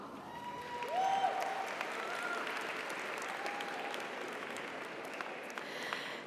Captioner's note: audience cheers; audience applauds